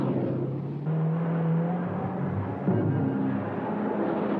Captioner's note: engine roaring